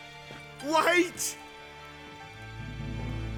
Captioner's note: pleading